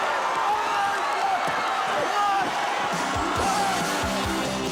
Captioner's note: audience hollers; upbeat music